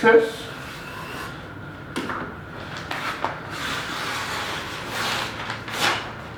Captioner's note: cutting and tearing noises